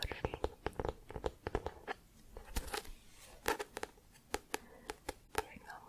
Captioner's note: tapping on book